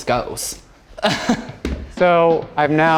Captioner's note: chuckles